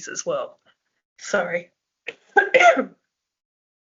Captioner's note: she coughs